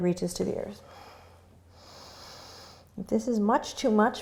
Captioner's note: breathing